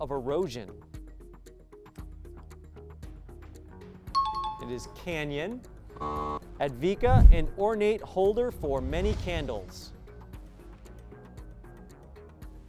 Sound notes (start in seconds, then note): 0.3 pulsing music; 4.2 high-pitched tones; 9.5 pulsing music